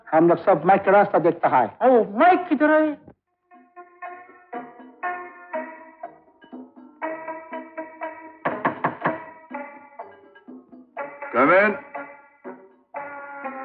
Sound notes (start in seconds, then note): 8.4 knock On Door